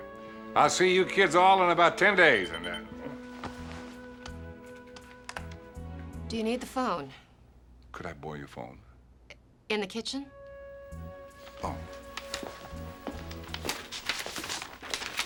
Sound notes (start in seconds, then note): 2.3 pager beeping